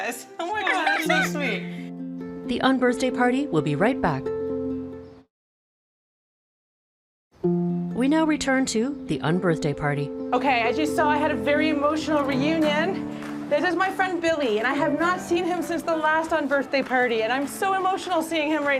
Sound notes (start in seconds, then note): 0.5 laughing; 7.1 soft music playing